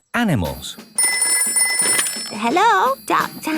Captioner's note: ringing